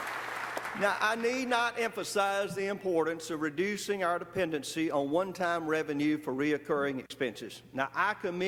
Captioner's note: applause